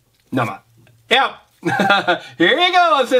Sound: chuckles

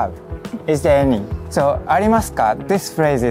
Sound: speaking in Japanese

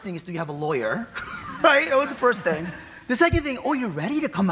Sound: laughs

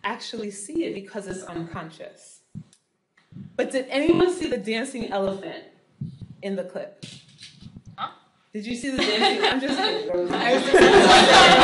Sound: laughing

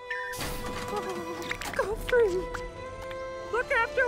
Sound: whimpers

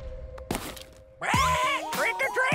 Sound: squawking

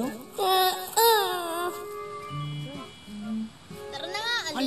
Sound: Michael whines

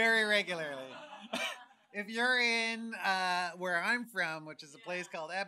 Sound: laughs

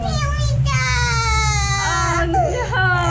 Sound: crying

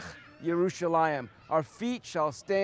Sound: speaking Hebrew

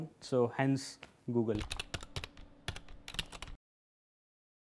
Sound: typing

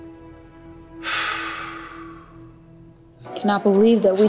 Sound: sighing

